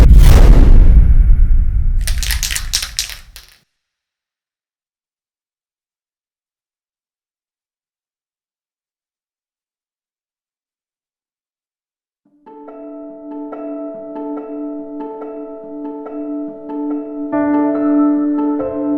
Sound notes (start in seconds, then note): 2.0 spray can rattling; 12.4 piano music